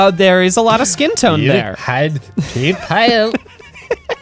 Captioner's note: pat; laughing